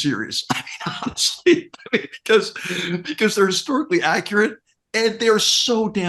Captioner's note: laugh